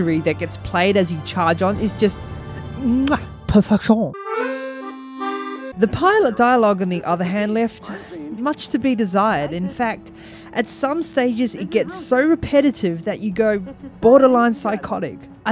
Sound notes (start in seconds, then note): 3.3 in the worst heckin French accent; 4.3 accordion plays